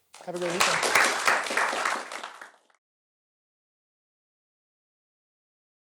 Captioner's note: applause